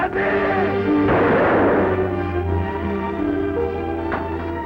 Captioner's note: gun fires